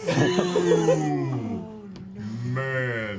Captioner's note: laughter